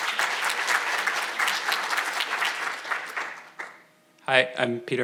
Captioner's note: audience applauding